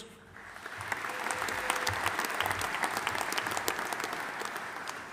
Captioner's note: audience applauding